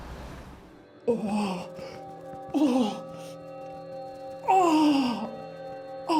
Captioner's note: man struggling, deep breathing